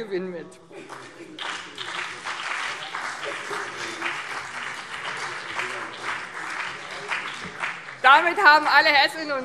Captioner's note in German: Beifall BÜNDNIS 90/DIE GRÜNEN und CDU